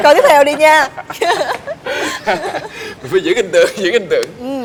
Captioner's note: laugh; laugh